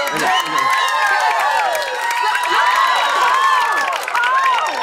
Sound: cheers and applause

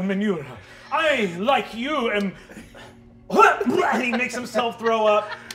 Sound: imitates vomiting

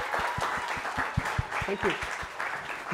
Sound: applause

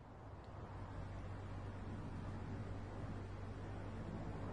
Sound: road noise rumbles

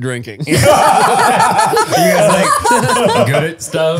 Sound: all laughing

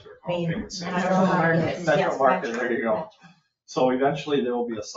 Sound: people chatter

